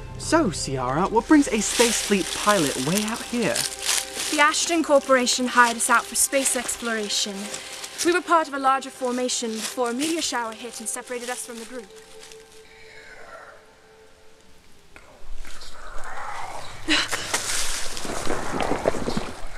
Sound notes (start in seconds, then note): 14.8 trees whispering